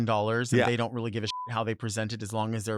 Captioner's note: beep